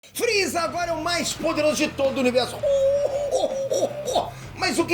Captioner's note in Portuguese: risada do Freeza